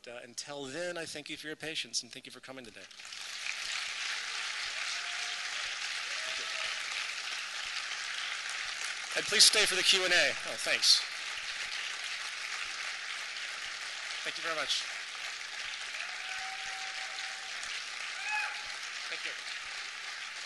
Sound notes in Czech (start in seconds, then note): 3.4 potlesk; 11.8 trvající potlesk; 16.3 trvající potlesk